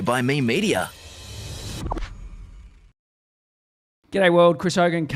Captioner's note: air whooshing